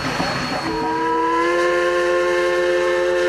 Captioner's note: train hoots